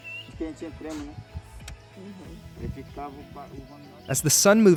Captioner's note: speaking in foreign language